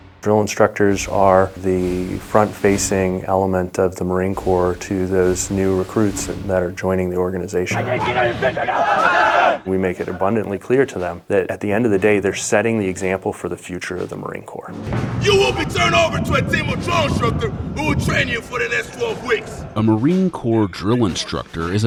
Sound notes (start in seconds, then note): 8.1 shouting